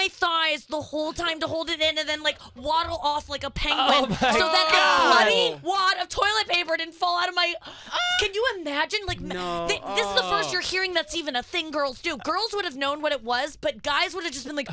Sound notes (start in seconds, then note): 9.2 groans